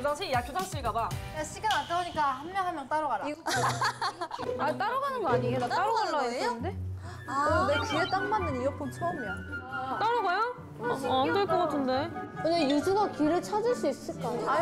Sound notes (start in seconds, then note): 3.4 laughing